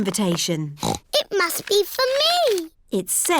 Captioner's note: snorts